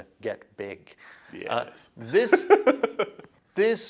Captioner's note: laughter